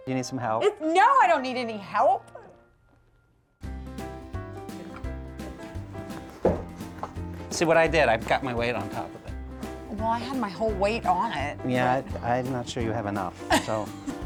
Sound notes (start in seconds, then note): 6.4 thump